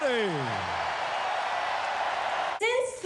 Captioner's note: applause